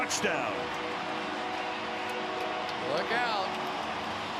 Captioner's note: cheering